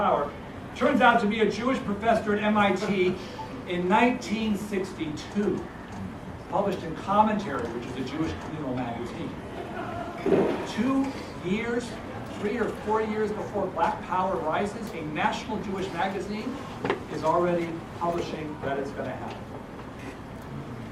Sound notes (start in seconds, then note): 9.5 laugh